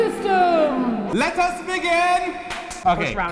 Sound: clap clap

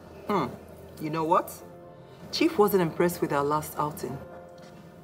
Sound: none

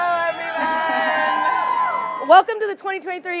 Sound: audience cheering

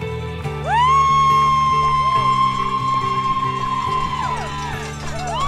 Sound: crowd cheering and applauding

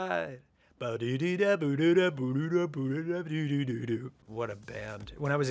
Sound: humming

